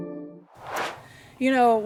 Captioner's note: swoosh